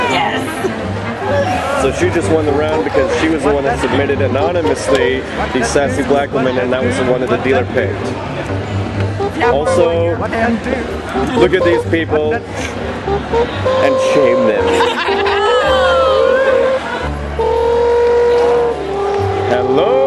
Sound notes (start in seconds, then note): 15.8 players cheer